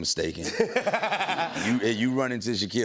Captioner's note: laughter